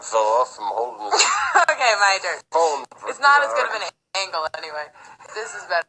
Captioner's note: laughs